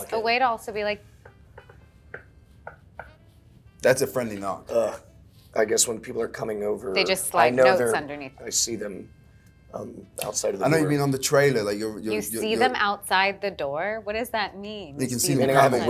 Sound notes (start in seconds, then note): 1.3 Elizabeth knocking on chair